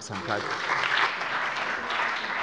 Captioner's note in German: Beifall bei dem BÜNDNIS 90/DIE GRÜNEN und der CDU